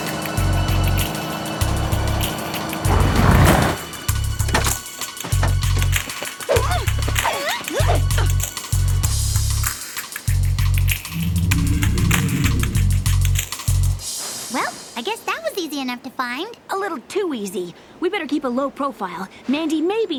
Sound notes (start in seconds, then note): 6.4 grunting